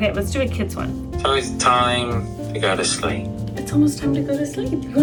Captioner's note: head Space Voice